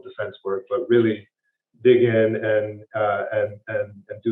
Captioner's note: stammers